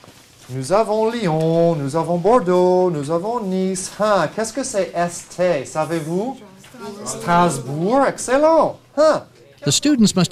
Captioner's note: teacher speaking in French language to students